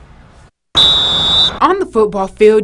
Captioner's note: whistle Blows